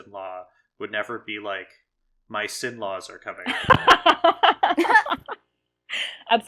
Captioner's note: laugh